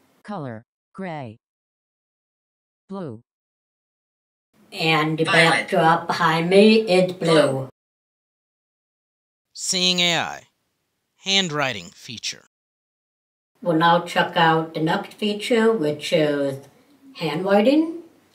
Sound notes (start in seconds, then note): 9.5 voiceover